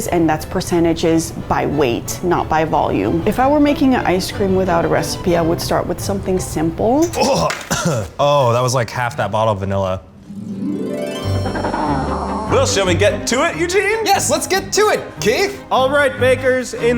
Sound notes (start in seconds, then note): 7.1 gags and coughs; 10.6 penguins cawing